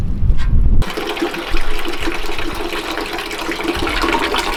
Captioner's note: water pouring